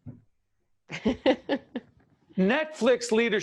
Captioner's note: laughing